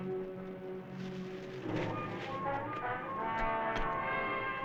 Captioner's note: rustling